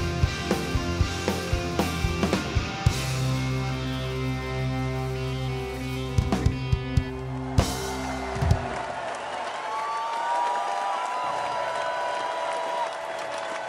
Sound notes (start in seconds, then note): 6.4 audience cheers